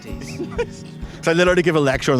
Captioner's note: laughter